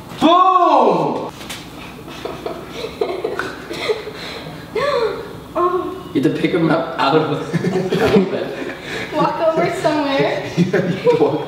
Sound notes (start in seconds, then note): 2.0 giggles; 3.8 gasps